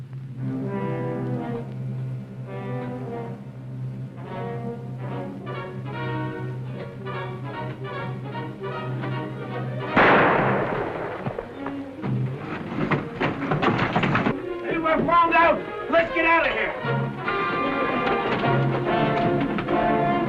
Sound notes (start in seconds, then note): 0.3 worrying music; 9.9 gunshot; 17.7 tense music